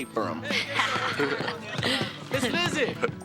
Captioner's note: laughing